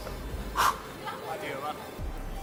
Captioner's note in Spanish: resopla